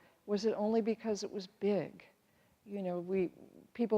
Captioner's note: none